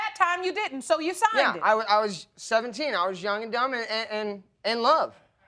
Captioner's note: stammering